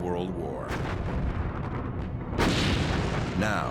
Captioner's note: gunfire